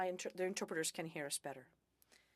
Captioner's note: speaking French